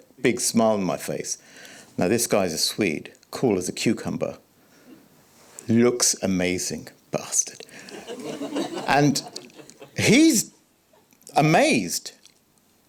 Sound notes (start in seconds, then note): 7.8 audience laughing